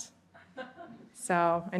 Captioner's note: laughter